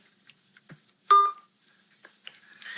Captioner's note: phone beeps